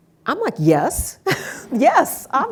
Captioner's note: laughs